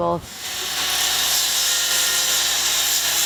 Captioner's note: saw buzzes